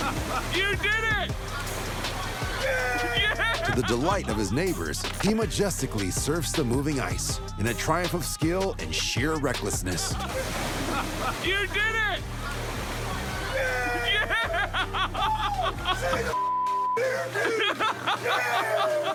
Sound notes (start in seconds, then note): 2.1 cheering